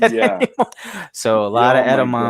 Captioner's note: laughs